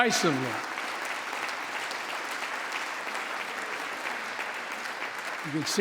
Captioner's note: applause